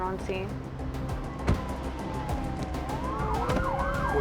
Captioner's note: sirens